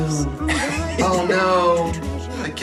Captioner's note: woman laughs